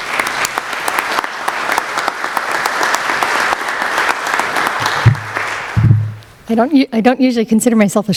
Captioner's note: applause